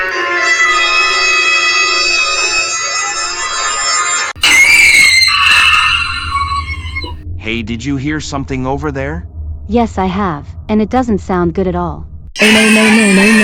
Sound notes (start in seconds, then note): 4.4 screaming